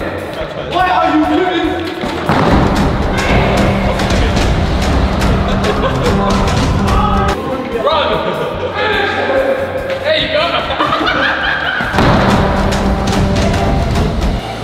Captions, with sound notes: - What are you doing? (intense drumming) - Run. (laughter) There you go!